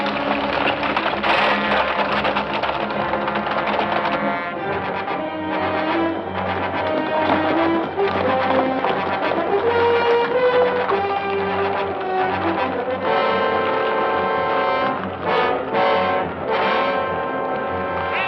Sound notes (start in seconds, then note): 1.1 tense music continues; 6.9 horses galloping